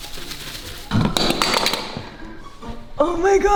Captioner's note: plastic rustling; tool clattering